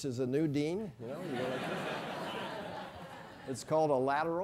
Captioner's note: laugh